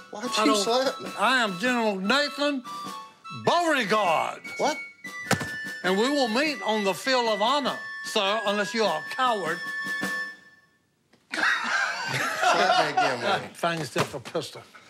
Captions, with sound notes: I am General Nathan Beauregard. What? And we will meet on the field of honor, sir, unless you are a coward. [laughter] Hit me again, man. Find yourself a pistol.